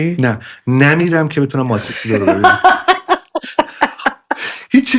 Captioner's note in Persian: خنده